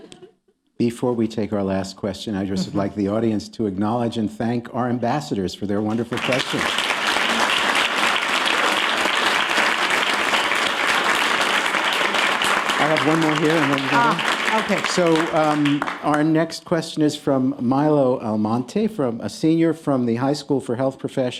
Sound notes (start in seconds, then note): 2.8 applause